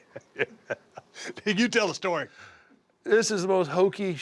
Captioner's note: laugh